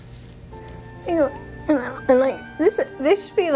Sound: whining

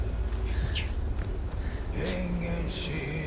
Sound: whisper

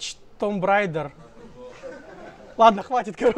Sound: crowd

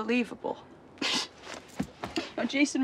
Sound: Natalie scoffs

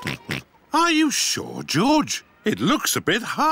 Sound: oinks

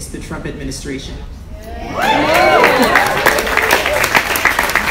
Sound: audience applauds

